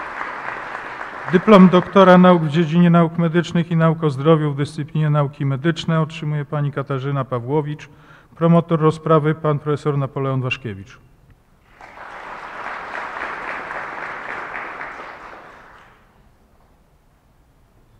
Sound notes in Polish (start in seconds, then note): 0.0 oklaski; 11.6 oklaski